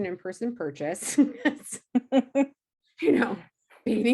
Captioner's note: laughing